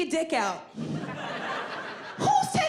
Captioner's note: audience laughing